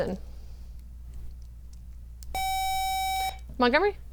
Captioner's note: buzzer